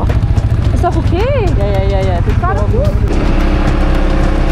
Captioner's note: speaking German